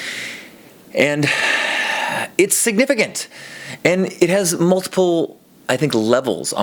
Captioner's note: sigh